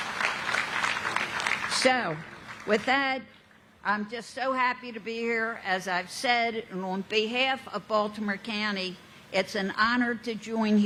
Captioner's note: applause